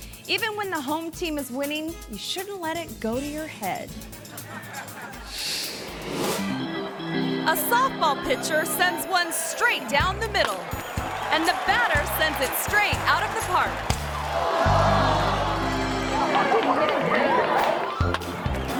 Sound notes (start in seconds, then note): 4.2 audience laughs; 14.2 crowd gasps